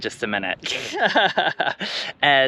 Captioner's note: giggles